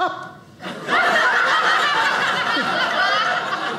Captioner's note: audience laughing